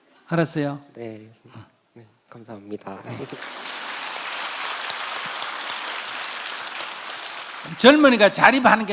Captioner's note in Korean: 청중 박수